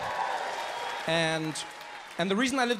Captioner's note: audience cheers and applauds